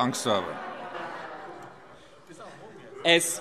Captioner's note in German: Heiterkeit